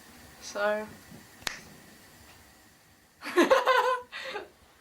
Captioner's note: laughs